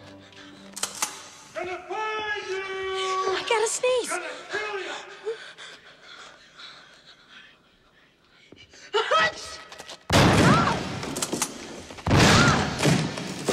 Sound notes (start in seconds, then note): 9.1 sneezes; 10.1 gun Fires